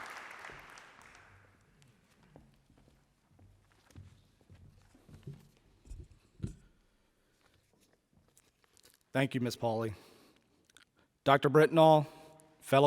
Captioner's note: applause